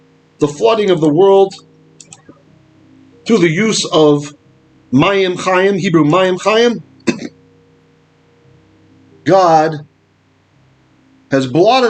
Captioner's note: Hebrew